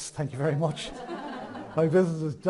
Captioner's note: audience chuckles